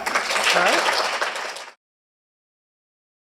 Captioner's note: applause